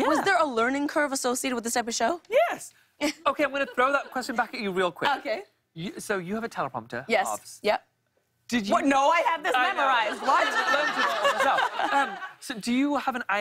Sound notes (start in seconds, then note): 9.9 laughter